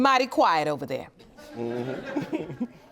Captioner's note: chuckling